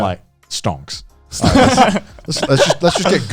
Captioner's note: chuckling